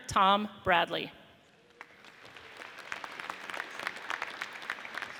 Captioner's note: audience applauds